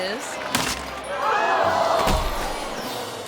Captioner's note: rope snaps; crowd gasps; thuds